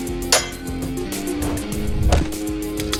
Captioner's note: sword whooshing; sword clinks; skateboard whacking